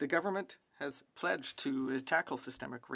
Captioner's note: speaking French